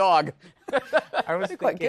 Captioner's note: laughs